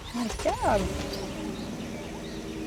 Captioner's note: car engine starts